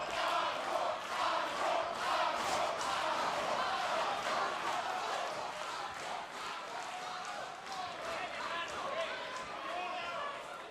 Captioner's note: crowd cheering